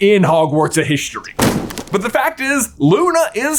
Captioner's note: book thudding